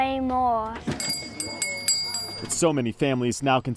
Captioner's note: door bell tinkling